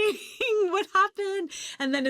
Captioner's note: chuckles